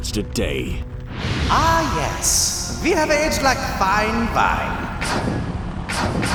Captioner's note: loudspeaker